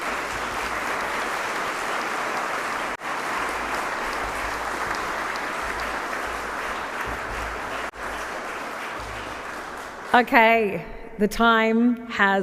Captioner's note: applause